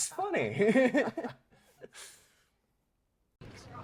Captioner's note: laughter